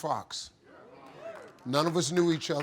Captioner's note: audience applauding